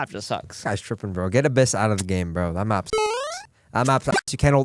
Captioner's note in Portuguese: beep